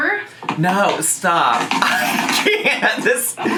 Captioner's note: laughing